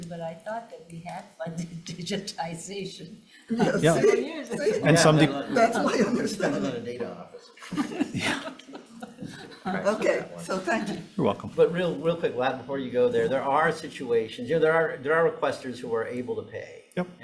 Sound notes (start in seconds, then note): 7.6 speaker chuckling